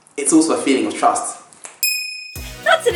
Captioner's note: ding sound effect